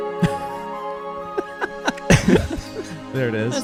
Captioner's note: laughing